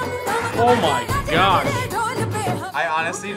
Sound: upbeat music; buzzer rings

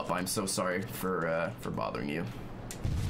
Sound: none

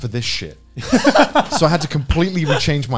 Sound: laughs

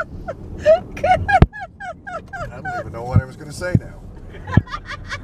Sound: laughing

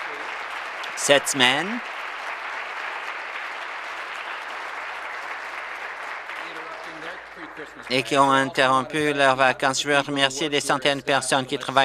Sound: applause

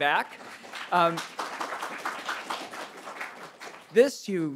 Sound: audience applauding

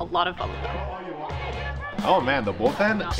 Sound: chatter

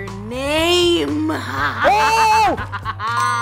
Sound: woman laughing

